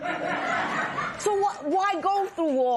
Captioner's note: laughter